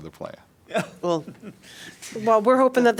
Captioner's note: laughter